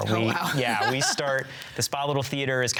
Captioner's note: laughs